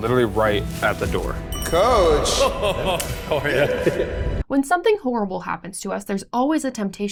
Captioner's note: laughter